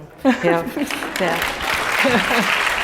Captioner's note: laugh; applause